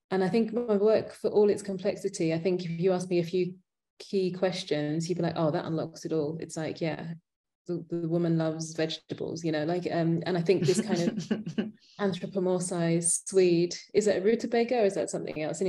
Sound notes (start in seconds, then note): 10.6 chuckling